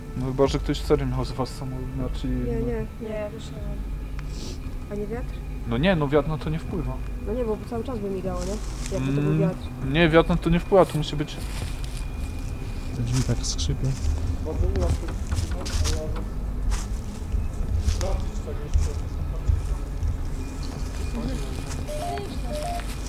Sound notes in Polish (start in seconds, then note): 5.0 parsknięcie